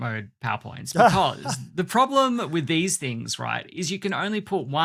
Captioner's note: laughs